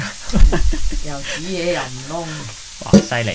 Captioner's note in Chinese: 智障笑